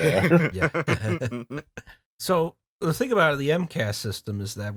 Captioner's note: laughter